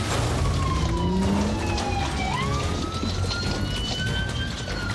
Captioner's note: siren wailing